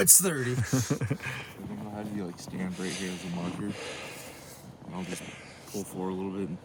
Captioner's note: laughter